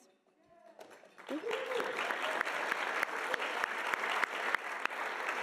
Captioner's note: audience applauding